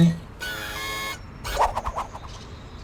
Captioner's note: boomerang flings